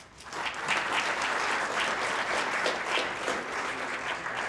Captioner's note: audience clapping